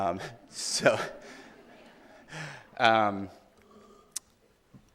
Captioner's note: audience laughing